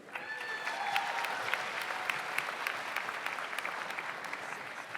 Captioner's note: audience applauds